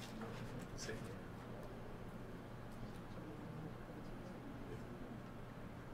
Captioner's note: audience member, speaking faintly